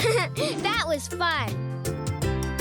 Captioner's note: laughing